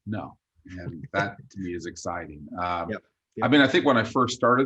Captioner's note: chuckles